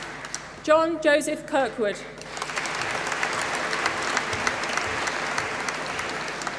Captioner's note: applause